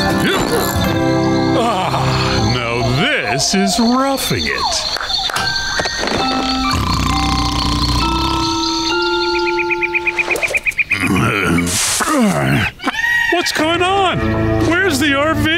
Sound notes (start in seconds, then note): 1.5 sighing; 6.7 snoring; 8.8 birds chirping